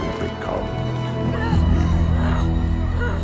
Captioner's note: grunting